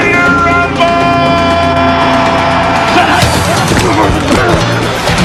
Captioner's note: crowd cheering